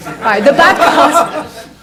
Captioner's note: audience laughs